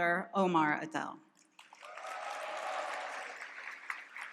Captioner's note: applause and cheering